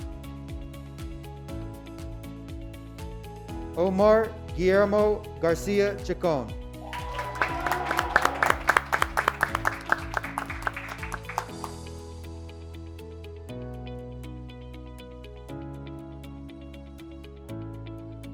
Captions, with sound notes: Omar Guillermo Garcia Cjikan, (graduates clapping) (graduates cheering)